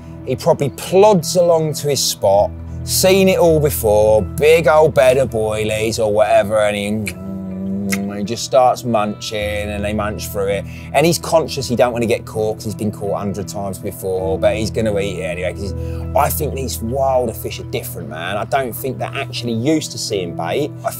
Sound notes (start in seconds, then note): 7.0 mimicking chewing